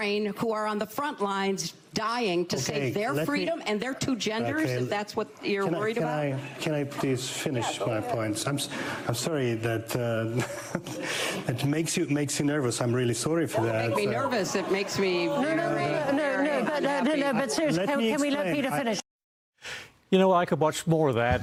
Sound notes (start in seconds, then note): 13.6 laughter